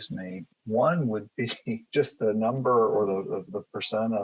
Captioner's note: chuckles